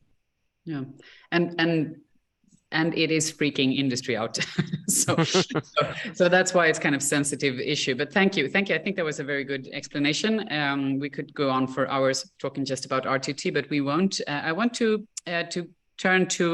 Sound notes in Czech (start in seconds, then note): 4.4 Smích